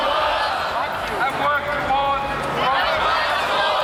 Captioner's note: crowd repeats